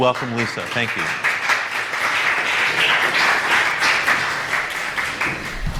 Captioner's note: applause